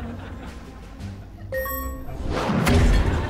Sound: beeping

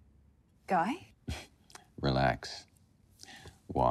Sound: chuckles

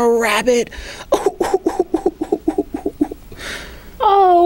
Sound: crying

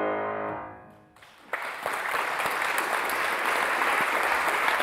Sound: audience applauds

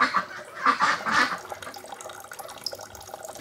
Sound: rippling water

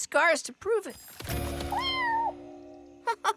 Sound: meowing

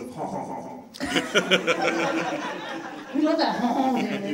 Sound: audience laughs

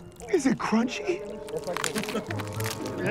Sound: crunching

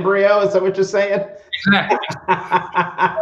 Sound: laughter

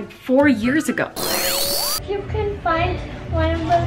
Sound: buzzing

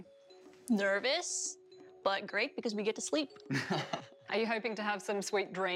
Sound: laughter

